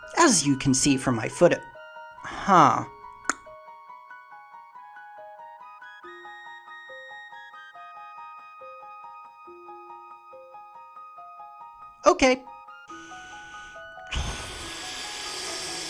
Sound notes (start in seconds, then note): 3.2 clicks tongue; 12.9 deflating noises